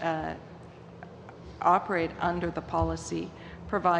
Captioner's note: speaking english